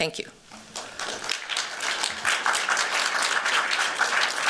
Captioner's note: applause